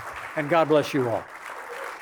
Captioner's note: applause